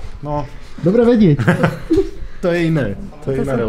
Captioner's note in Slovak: smiech